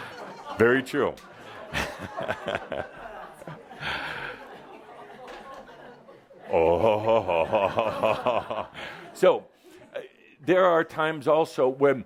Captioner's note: laughter; Adamus chuckles